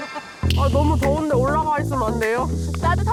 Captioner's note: transition sound effect